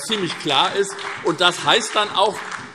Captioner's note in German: Beifall SPD